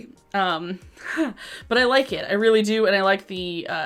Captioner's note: chuckles